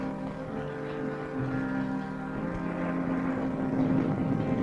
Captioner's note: thunder rumbling